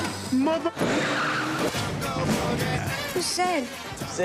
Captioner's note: car tires critches